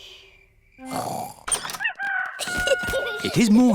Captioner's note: both snoring; rooster crowing